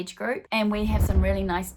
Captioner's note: swooshing